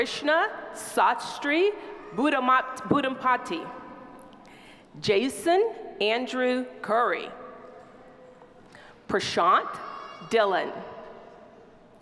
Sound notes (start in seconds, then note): none